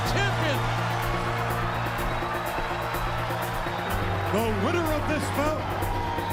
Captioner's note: crowd cheering